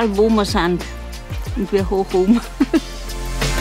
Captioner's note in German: lacht